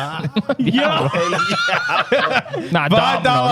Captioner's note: laughing